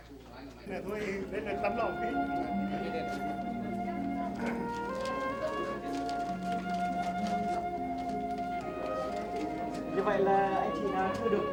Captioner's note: speaking Vietnamese